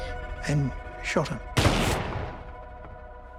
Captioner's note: gasping; gun firing; tense music